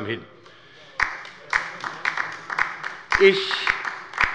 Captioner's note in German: Beifall bei der LINKEN